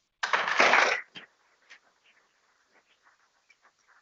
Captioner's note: people clapping